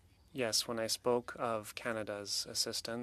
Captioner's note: speaking French